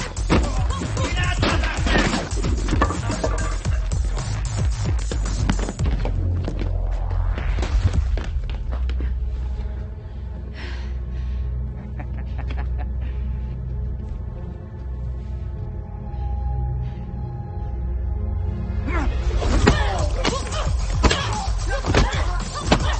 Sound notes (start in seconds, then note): 3.6 tense music; 11.8 thug laughing; 17.7 dramatic music